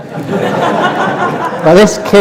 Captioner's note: laughter